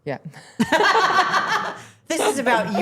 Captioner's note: everyone laughing